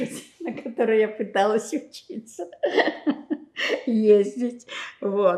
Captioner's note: laughing